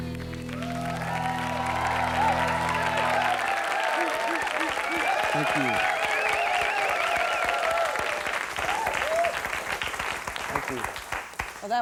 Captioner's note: Applaus, hoots